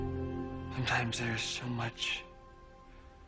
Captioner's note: none